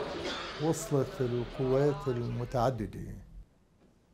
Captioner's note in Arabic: العربية، اللغة المنطوقة